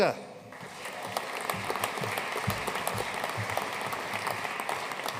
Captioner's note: audience applauding